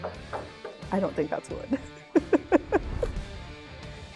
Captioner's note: laughs